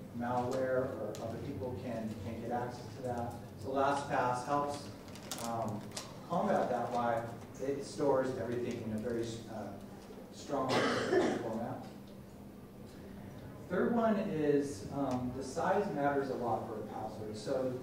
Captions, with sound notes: Malware, other people can get access to that. So, LastPass helps combat that by it stores everything in a very strong (coughing drowns out speaker) format. Third one is that size matters a lot for a password.